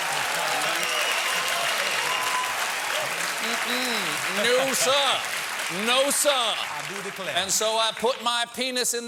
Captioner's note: cheers and applause